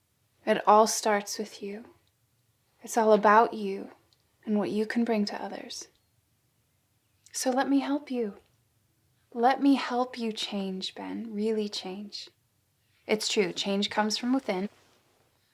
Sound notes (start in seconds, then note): none